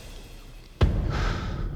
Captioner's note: thud